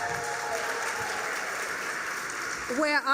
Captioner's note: applause